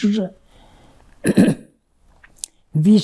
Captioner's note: clears throat